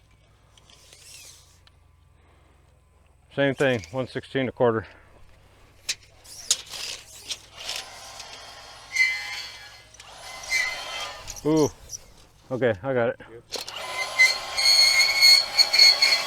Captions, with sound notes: (measuring tape whirls) Same thing, 116 a quarter. (measuring tape whirls) (machine revs) (measuring tape whirls) Ooh. Okay, I got it. (machine revs)